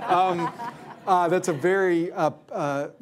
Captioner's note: laughter